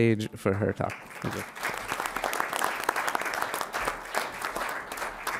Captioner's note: audience applauding